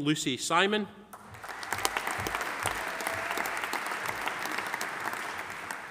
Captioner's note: audience applauding